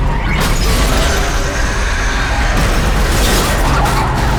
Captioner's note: screeching; glass shattering